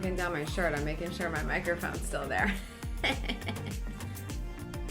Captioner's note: laughs